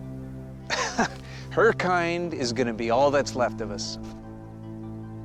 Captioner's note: laughs